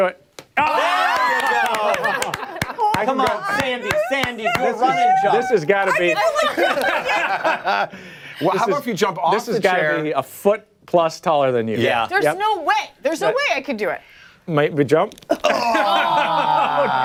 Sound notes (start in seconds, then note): 6.7 applause; 7.9 laughter